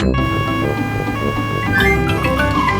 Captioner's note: siren wailing